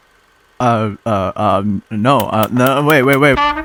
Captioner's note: stammering